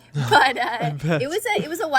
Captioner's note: both laughing